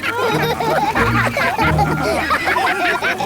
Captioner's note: all laugh